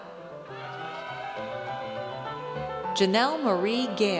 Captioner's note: audience cheers